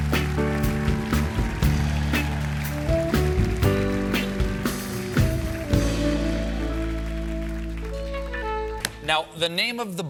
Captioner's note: applause